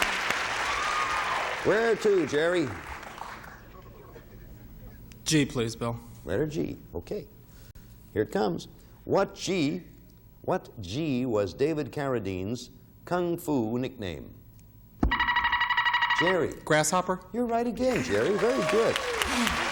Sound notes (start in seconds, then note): 15.0 buzzer beeping